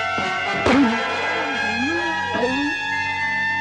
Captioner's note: groaning